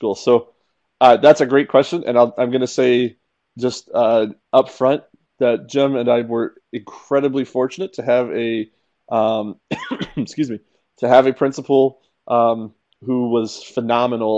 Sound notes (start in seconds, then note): 9.6 cough